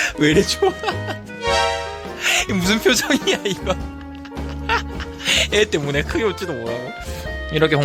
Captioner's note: breathless laughter